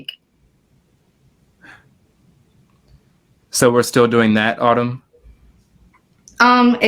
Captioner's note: sighs